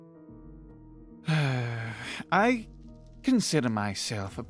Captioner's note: sigh